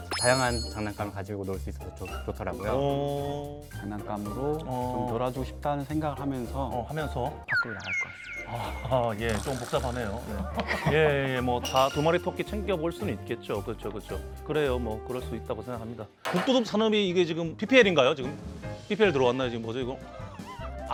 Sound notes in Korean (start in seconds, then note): 10.2 웃음